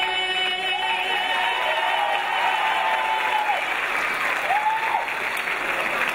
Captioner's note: crowd applauds and cheers